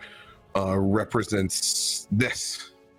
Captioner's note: none